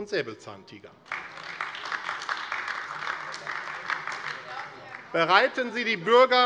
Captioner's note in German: Beifall AfD